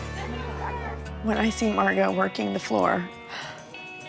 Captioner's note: voice breaking